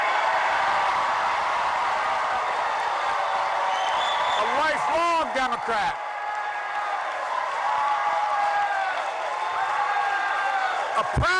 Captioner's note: cheering